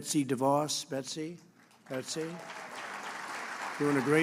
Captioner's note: applause